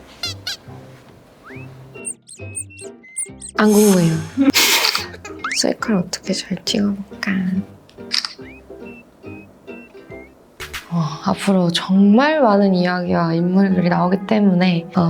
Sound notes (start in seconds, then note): 4.4 failed to hold back the laughter~!